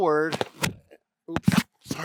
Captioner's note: bumps into microphone